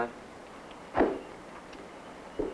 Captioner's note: papers thudding; clerk's footsteps descending